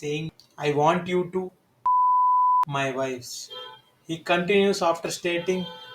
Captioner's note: beep sound in editing